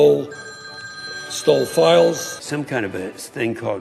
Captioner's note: cell phone ringing